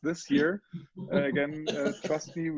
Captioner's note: laughing